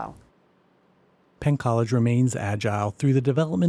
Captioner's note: voiceover